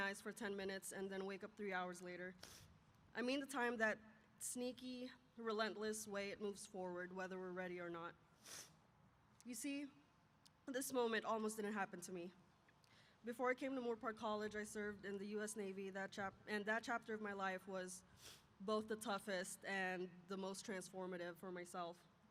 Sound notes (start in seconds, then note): none